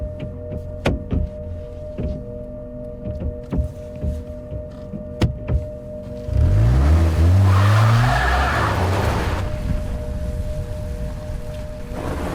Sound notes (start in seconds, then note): 0.7 hand smacks on car window; 6.0 engine revs, tires spin